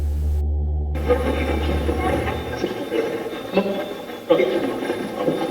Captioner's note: Steve's Box chatters